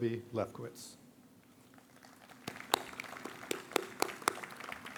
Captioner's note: audience applauds